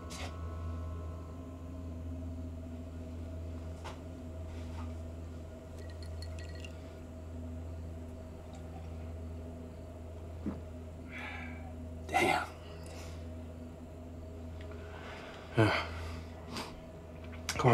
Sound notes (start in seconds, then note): 0.5 tense music; 5.8 ice cubes clinking; 7.9 tense music; 12.9 crickets chirping; 13.2 tense music; 16.4 Ben sniffs